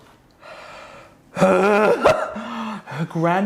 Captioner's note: gagging loudly